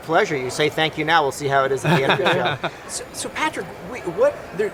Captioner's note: laughing